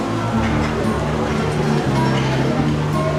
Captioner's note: none